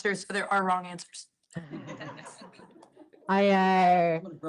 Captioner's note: laughter